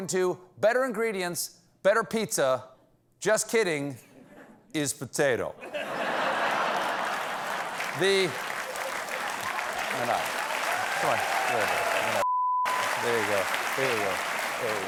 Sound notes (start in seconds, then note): 5.6 laughter; 6.3 applause